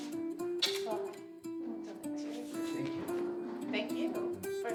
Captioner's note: all chattering